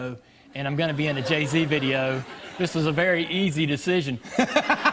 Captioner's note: laughter